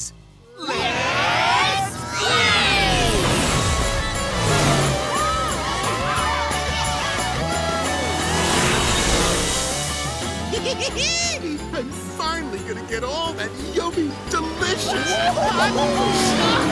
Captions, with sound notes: Let's blaze! Yahoo! [giggling] I'm finally going to get all that yummy, delicious-- [cheering]